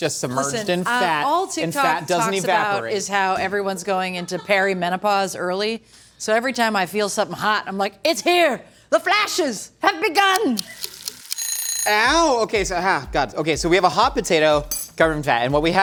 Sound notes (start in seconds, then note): 10.4 timer Ticking; 11.2 timer Ringing